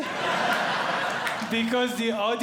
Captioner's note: audience Laughing